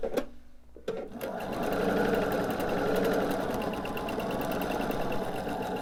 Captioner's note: sewing machine whirring